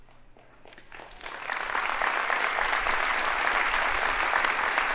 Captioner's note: audience applauding